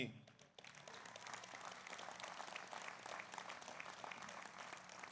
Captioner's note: audience applauds